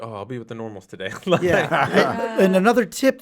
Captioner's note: all laugh